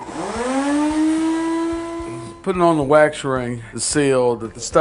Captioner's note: sound of vacuum